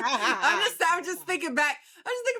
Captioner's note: both laughing